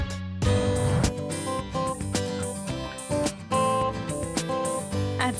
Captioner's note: whoosh